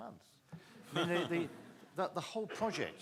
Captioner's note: people laughing